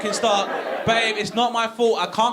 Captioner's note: audience laughing